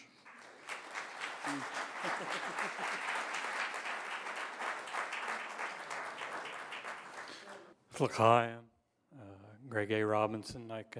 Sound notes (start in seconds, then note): 0.0 applause; 8.5 non-english speech